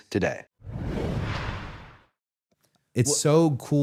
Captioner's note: graphic whooshing